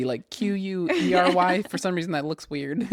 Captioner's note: laughs